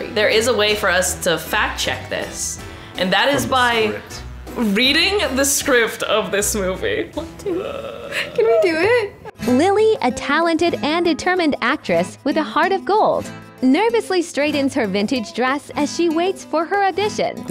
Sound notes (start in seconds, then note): 7.2 chuckles; 9.6 AI Voice